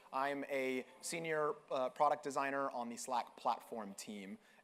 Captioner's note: none